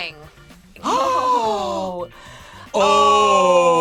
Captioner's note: gasps